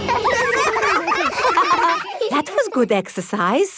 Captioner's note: all giggling